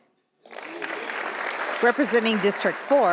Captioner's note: audience applauding